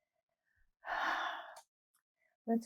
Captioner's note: sighing